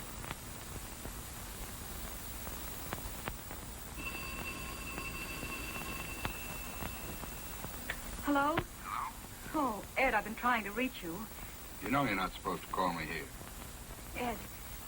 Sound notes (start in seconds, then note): 4.0 phone ringing; 9.6 on phone